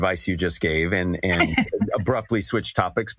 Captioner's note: laugh